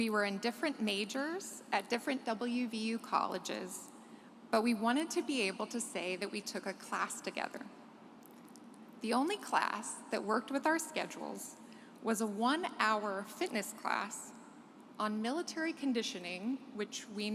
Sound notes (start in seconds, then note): none